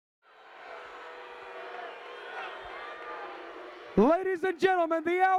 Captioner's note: crowd jeering